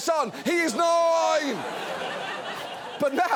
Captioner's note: studio audience laughs